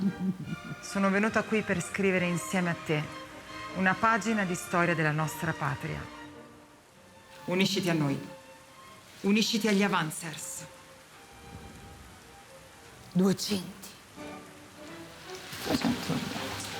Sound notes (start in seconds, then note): 0.0 Janara giggling; 10.6 dramatic classical music playing; 14.1 rain keeps pouring down